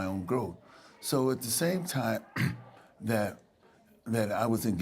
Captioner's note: clears throat